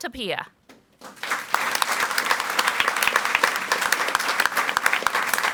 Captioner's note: audience applauds